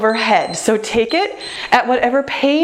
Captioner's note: timer beeps